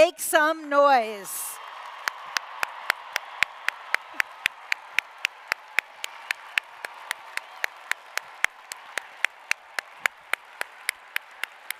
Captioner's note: applause